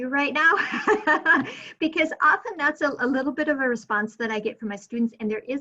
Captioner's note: laughing